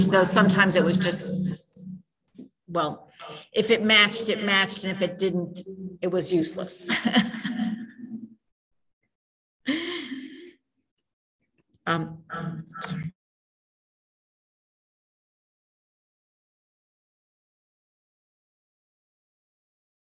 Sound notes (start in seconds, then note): 6.8 giggles